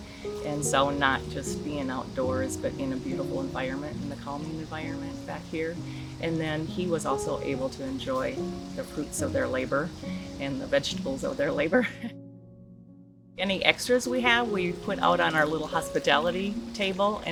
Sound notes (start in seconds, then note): 11.6 laughs lightly